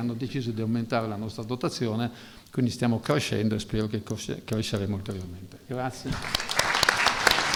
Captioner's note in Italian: Applauso